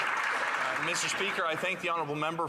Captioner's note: some Applause